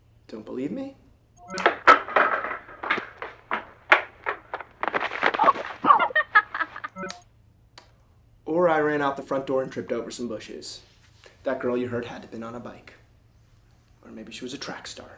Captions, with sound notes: Don't believe me? [footsteps running] Oh! Ugh! [female laughter] Or I ran out the front door and tripped over some bushes. That girl you heard had to've been on a bike or maybe she was a track star.